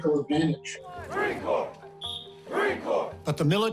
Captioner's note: shouting